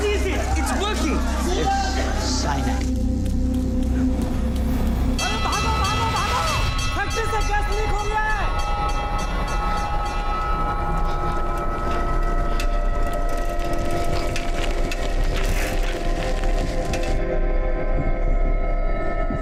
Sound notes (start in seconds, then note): 5.1 bell ringing; 11.7 labored breathing